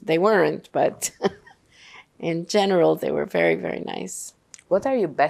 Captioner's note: laughing